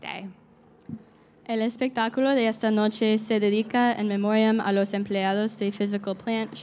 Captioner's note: speaking in Spanish